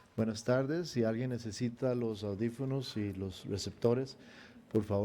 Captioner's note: speaking in foreign language